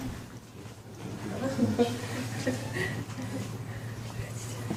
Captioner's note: laughing